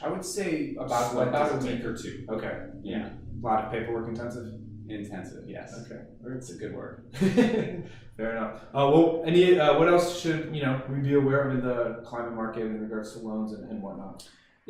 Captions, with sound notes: - I would say about a week or two. - Okay. - Yeah. - A lot of paperwork, intensive. - Intensive, yes. - Okay. - It's a good word. - (laughs) Fair enough. What else should, you know, we be aware of in the climate market in regards to loans and what-not?